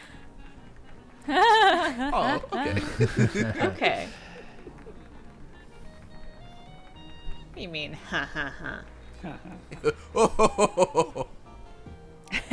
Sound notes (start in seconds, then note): 1.6 laughing